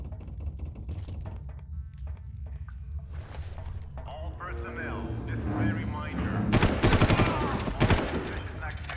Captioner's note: gun firing